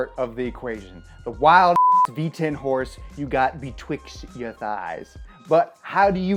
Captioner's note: beep